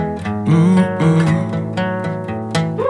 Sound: humming

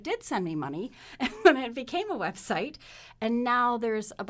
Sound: laughs

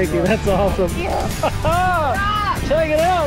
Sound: laughs

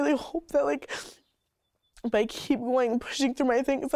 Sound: sniffles

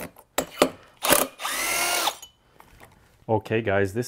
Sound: driver tool roaring continues

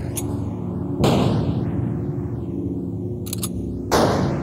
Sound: gun firing

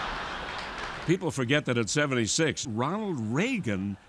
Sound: laughter

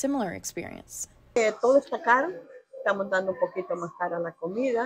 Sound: in Spanish

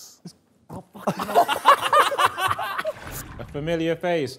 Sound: laughter

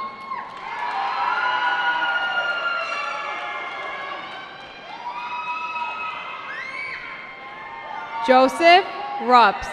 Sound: cheering

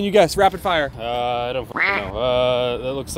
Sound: duck quacking

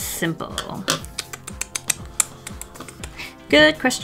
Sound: mouth kissing

